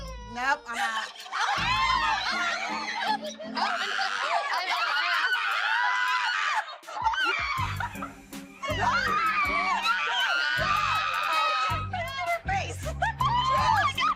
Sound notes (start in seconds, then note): 1.0 laughter; 2.2 screaming, squealing; 8.6 screaming continues; 13.3 laughs